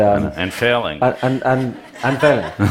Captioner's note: Laughter; 笑聲